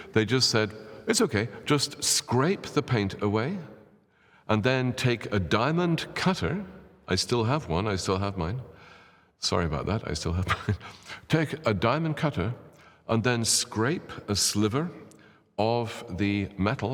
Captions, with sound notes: They just said, "It's okay, just scrape the paint away." And then take a diamond cutter, I still have one, I still have mine, sorry about that. [laughs] Take a diamond cutter and then scrape a sliver of the metal